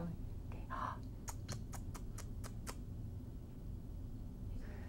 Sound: kissing sounds

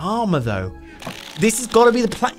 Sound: paper flapping

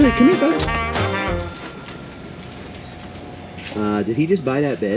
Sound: register dings

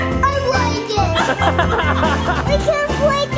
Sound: parents laughing

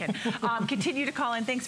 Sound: laughter

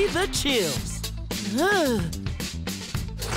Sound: shivering

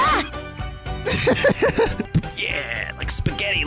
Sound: laughs

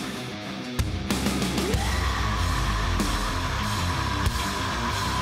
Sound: screaming

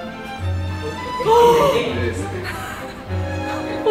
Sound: gasps

